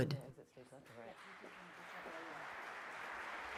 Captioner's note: applause